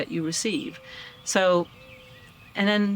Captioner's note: birds chirping